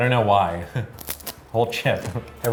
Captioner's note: chewing